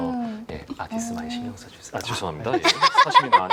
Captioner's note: whisper